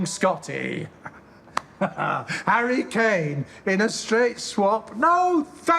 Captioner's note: he laughs